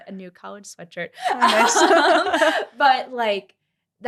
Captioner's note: laughter